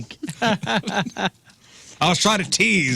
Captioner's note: laughing